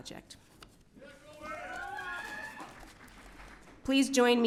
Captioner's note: audience cheering